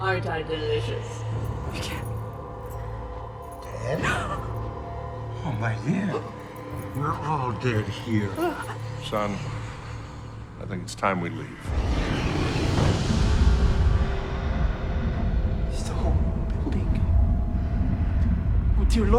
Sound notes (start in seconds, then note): 4.6 Bryn gasps; 13.4 voice growls